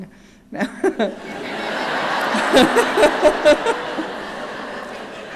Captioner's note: laughing